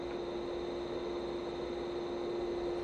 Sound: machine whirring

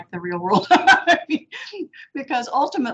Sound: laughing

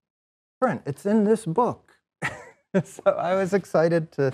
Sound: laughs

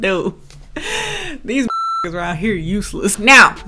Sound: beep

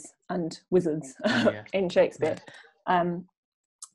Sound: laughs

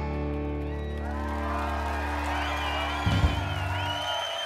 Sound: cheers and applause

